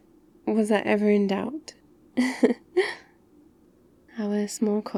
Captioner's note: laughs